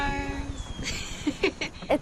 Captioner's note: chuckles